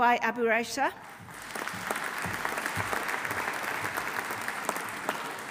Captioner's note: audience applauding